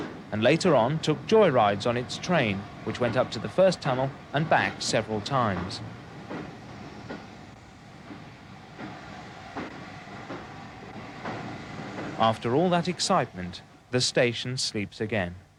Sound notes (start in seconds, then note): 8.2 train leaving